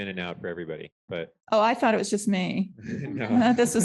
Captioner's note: laughter